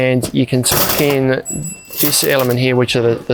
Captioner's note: bell chimes